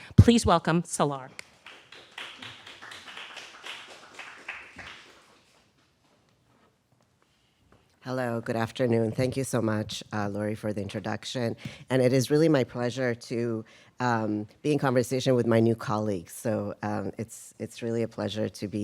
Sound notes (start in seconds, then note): 1.6 audience applauding